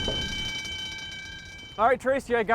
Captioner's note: tapes clatter; alarm ringing